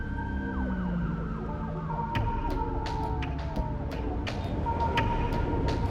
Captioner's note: distant sirens